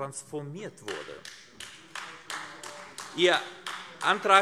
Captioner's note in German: Beifall AfD